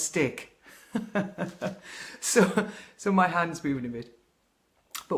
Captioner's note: laughter